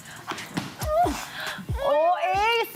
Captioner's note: gasps